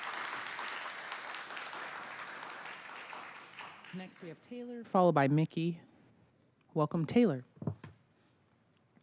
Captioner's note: applause